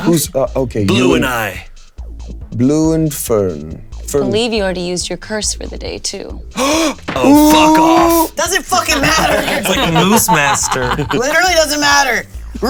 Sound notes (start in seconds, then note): 6.5 Damien gasping; 8.9 players laughing